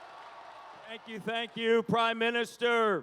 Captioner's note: applause; cheering